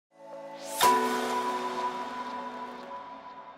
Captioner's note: chime